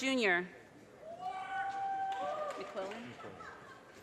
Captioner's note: audience cheers and applause